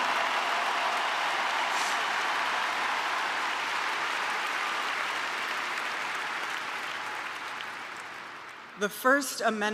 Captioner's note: applause